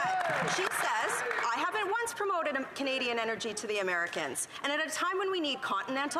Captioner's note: some Applause